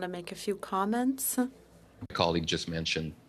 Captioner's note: speaking French